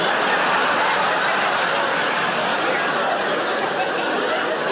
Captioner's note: audience laughing